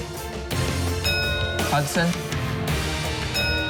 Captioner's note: bell dings; bell dings